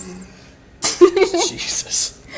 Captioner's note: laughs